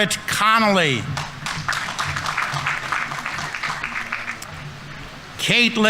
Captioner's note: audience applauding